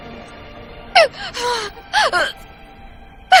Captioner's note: gasping, coughing